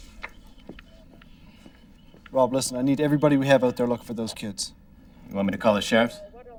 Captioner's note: none